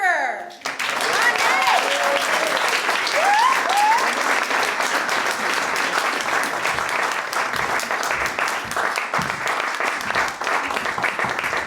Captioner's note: applause